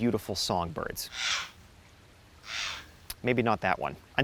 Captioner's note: bird cawing